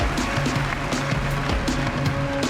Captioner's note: cheering and applause